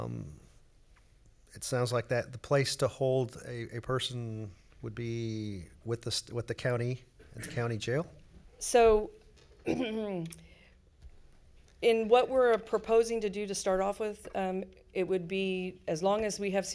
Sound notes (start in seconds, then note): 9.6 clears throat